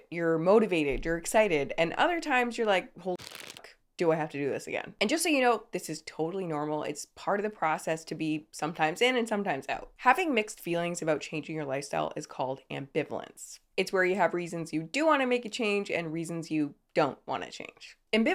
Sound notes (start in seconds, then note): 3.2 object rustling